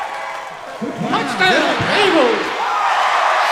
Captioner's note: voice On PA; audience cheering